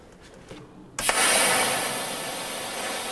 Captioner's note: hissing